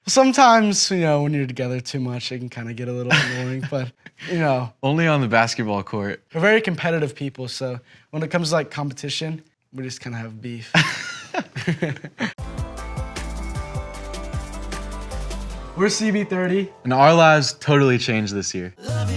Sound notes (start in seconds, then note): 10.7 boys laughing; 12.4 upbeat music